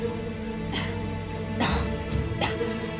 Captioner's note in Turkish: Öksürme sesi